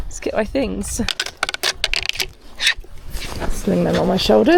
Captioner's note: skis clack